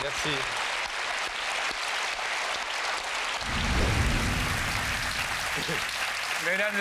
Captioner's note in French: applaudissements